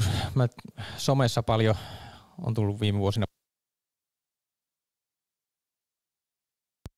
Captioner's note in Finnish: Ääni katkeaa